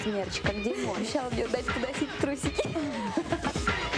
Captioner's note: laughter